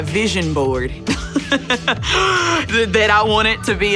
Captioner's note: laughing